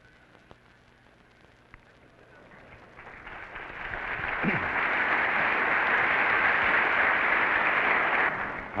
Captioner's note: applause